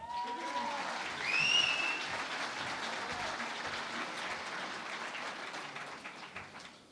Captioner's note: cheering and Applause